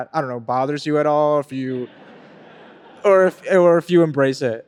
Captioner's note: audience laughing